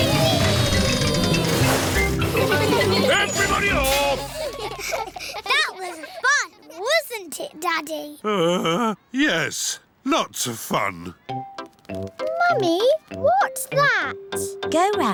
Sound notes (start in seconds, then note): 8.2 groans